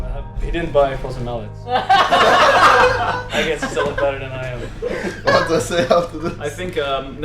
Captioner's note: lot of laughing